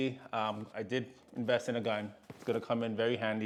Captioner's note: impact